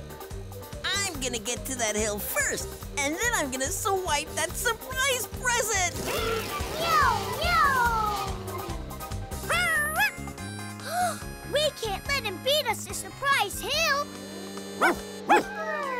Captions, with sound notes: I'm gonna get to that hill first, and then I'm gonna swipe that surprise present. Meow! Meow! [barking] We can't let him beat us to Surprise Hill. Woof! Woof!